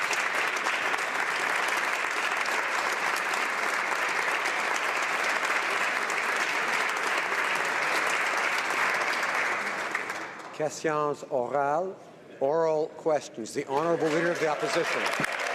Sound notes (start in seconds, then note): 4.0 applause